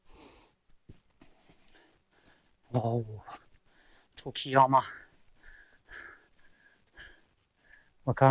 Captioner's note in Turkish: homurdanır